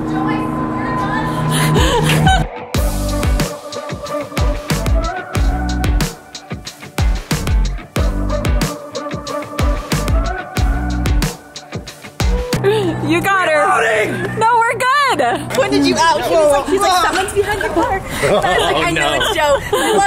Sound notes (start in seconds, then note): 1.3 laughing; 3.4 upbeat music